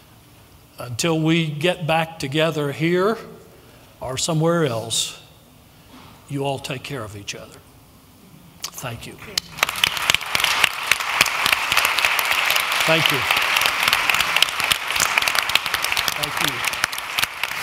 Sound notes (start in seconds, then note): 8.7 applause